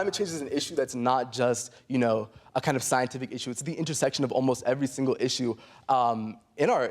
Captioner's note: none